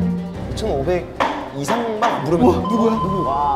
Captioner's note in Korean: 경쾌한 경매봉 소리